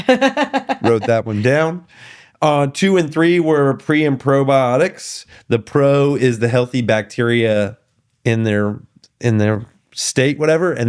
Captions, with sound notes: (laughing) Wrote that one down. Two and three were pre and probiotics. The pro is the healthy bacteria in their state, whatever.